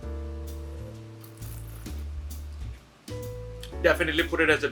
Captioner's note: relaxed jazz music; wine trilling